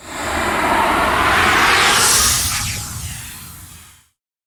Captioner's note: logo whooshing